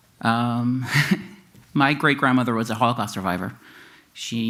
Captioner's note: chuckles